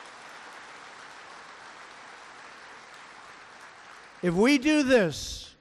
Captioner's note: applause